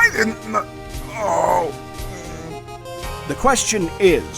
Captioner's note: whimper